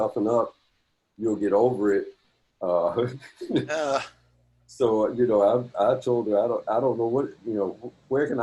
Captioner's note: laughter